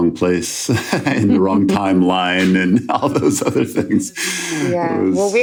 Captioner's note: laughs